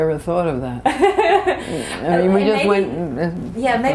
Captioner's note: laughter